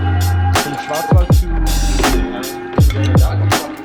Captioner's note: upbeat music; chatters